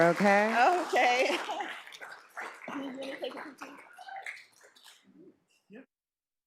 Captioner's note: laughs